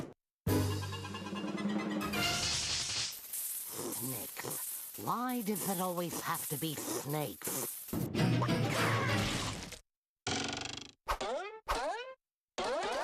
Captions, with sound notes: [hissing] SNAKES. WHY DOES IT ALWAYS HAVE TO BE SNAKES?